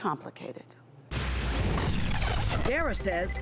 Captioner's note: television buffering